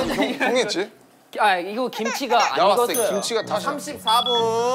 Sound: Kimchi: Crying

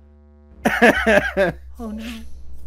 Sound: laughter

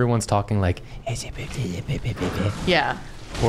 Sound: whispering

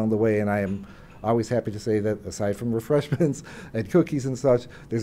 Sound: laugh

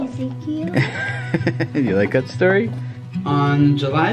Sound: laughs

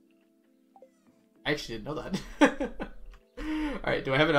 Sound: laughs

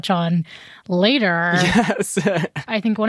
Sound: chuckles

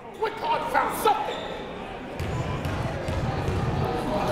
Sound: crowd talking

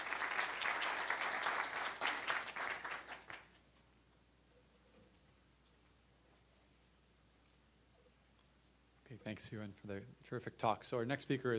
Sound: applause

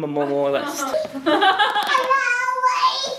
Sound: laughing

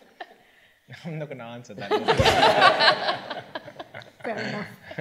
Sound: all laughing

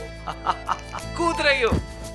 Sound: laughing

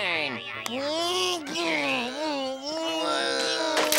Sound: grunting; snapping

